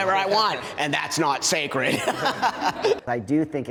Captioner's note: laughs